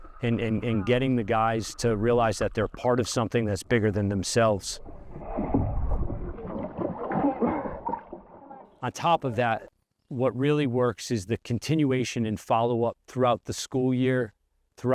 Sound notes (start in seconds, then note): 5.1 muffled water splashing